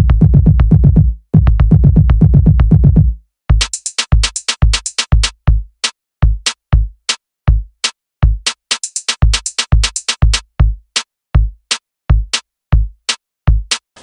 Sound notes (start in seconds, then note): none